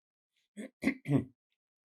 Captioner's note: clears throat; pauses 10 seconds